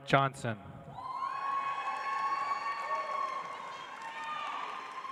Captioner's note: audience applauds